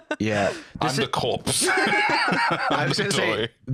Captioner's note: laughs